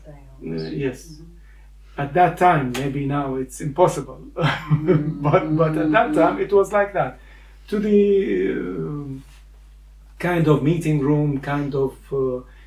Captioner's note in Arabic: بصوت مفاجَأ